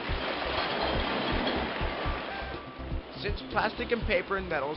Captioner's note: clanging